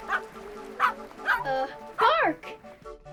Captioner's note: dog barking